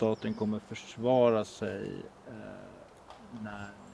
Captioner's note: birds chirping